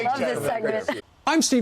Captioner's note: laughter